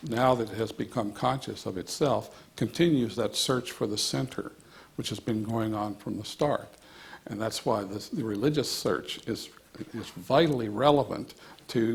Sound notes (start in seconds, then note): none